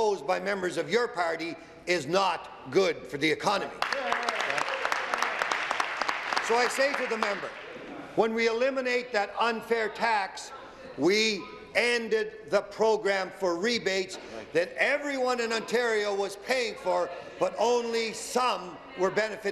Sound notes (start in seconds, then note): 6.9 applause